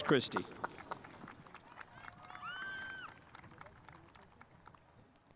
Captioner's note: spectators applauding